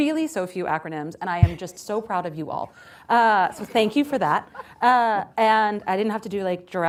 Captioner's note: laughter